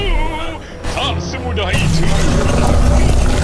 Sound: suspenseful music starts; loud rumbling and clattering

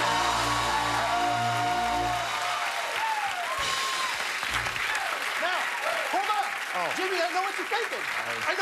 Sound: cheers and applause

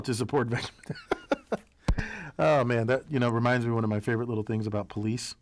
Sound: laugh

